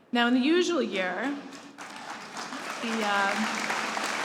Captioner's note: applause